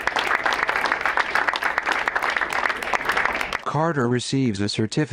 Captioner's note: crowd applauds